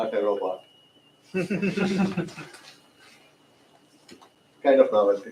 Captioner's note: laughter